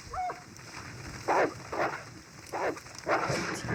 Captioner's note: cries of wolves